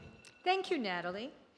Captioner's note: alarm beeps